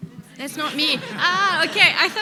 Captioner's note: audience laughing